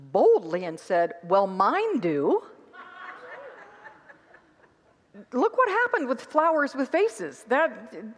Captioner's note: congregants laugh